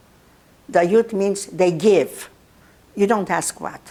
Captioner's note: russian